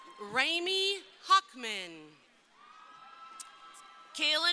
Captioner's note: crowd cheering